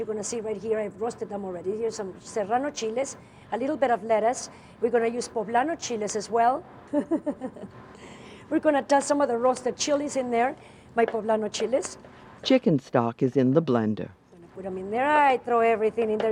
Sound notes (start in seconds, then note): 7.0 laughs; 12.4 voiceover